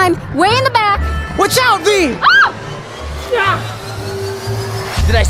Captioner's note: screams